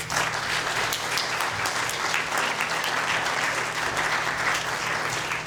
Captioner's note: audience applauding